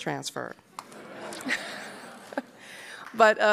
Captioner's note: applause; laughing